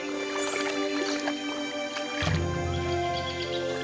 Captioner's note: splashing